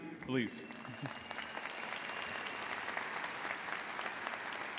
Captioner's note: crowd applauds